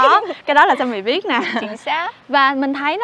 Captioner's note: laughing